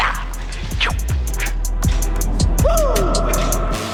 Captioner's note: imitates speed sound effect